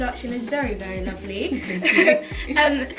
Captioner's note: laughs